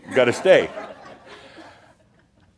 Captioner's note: laughter